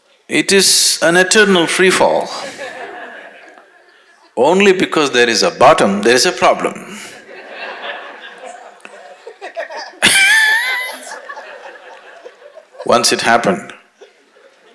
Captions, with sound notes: it is an eternal free fall. Only because there is a bottom, there is a problem. (Laughter) (Laughs) Once it happened,